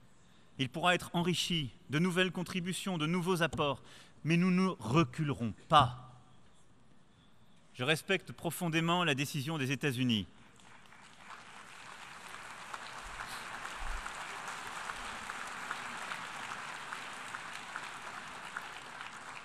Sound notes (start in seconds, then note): 11.0 applause